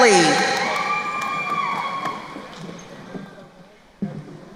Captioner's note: crowd cheering